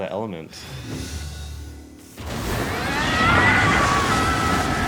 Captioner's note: screaming